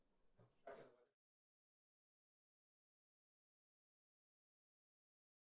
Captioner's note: council member speaking faintly